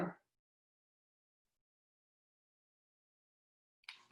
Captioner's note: silence